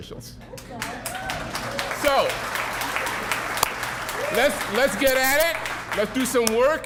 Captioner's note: cheering, applause